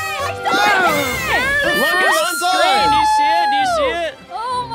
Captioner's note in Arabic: المشاركين يهتفون